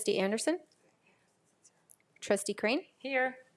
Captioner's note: speaking faintly